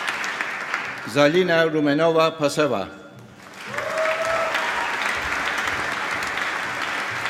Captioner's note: cheering and applause